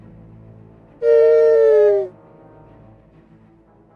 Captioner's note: t3-m4 whines